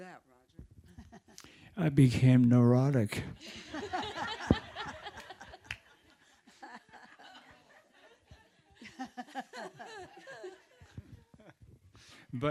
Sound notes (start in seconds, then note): 4.3 audience laughing